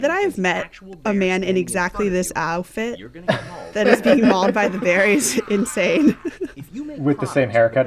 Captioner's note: laughter